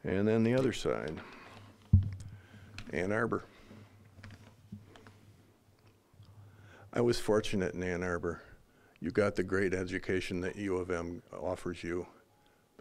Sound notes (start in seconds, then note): none